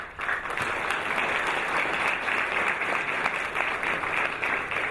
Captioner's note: audience applauding